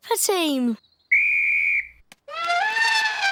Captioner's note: blows whistle; trumpets